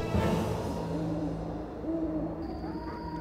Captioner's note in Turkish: Baykuş sesi